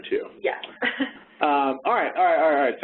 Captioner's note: laughs